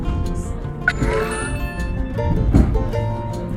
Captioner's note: charging noise